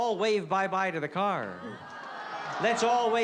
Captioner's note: crowd groans